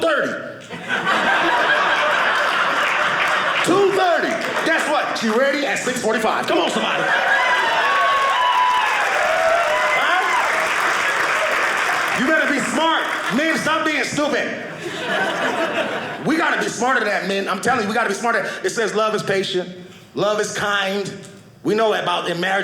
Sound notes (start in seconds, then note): 0.6 audience laughing; 8.2 audience cheering; 10.6 audience clapping